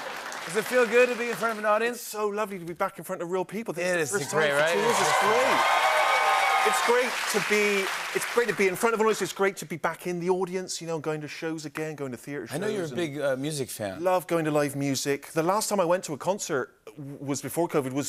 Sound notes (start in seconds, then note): 4.2 cheering and applause